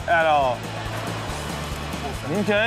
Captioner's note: crowd laughs